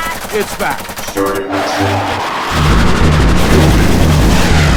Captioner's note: automated Voice; weapons blasting